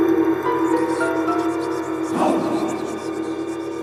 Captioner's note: gong reverberates; voices whispering; voices whispering